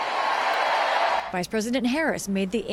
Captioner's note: cheering